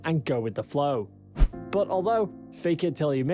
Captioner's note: screen swishes